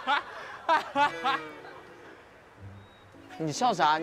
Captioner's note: Tears with talking